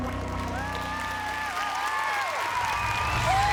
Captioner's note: audience cheers, applauds; whooping